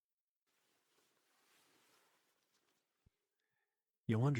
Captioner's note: fabric rustling